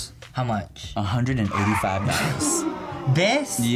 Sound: brakes screech; crowd aws

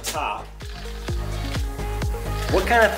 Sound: upbeat music; wheels rattling

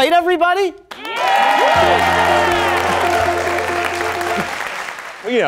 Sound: audience cheering

